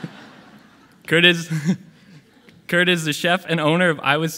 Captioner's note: audience laughing; laughing